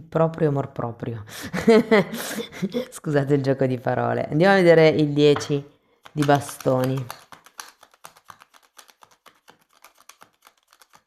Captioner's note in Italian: risate